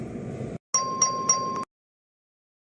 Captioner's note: ding, ding, ding